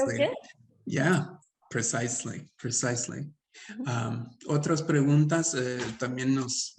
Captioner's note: speaking Spanish